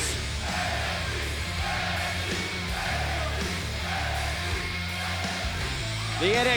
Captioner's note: fans chanting